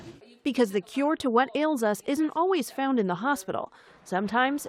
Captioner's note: voice-over